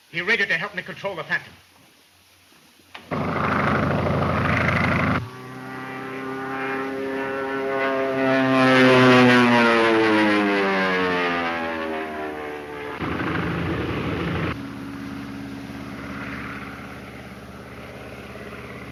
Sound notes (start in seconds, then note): 3.2 airplane engine roaring